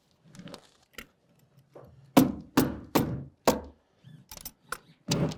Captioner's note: hammer banging